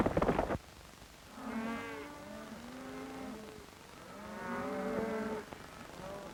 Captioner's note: mooing